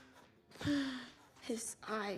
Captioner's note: sighing